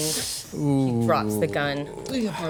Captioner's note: groaning